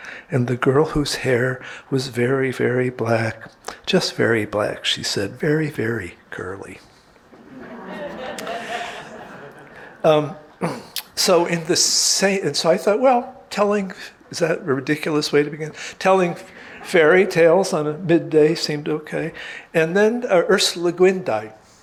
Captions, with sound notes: "and the girl whose hair was very, very black." "Just very black," she said "Very, very curly." (audience laughing) So saying this, so I thought well telling, is that a ridiculous way to begin, telling fairy tales on a midday seemed okay. And then Ursula Le Guin died.